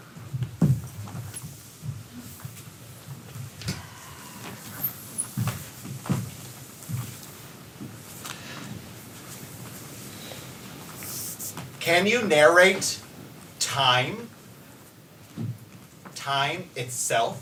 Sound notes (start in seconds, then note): 4.4 dancers' bodies scrape